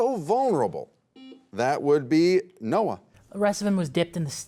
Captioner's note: beep